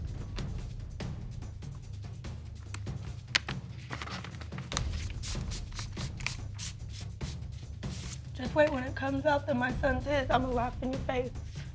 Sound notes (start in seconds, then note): 3.2 paper rustling